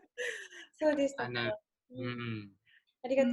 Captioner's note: laughs